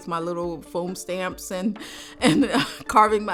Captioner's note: laughs